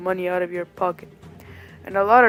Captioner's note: breathes